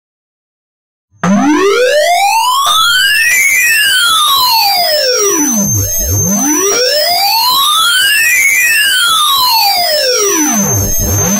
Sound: sound of intergalactic police

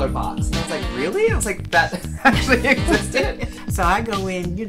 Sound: laughing

